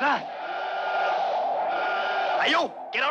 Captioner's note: alarm blaring